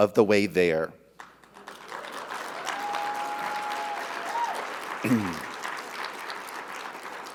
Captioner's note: audience applauding; audience cheering